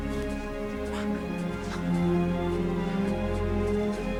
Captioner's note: both chuckling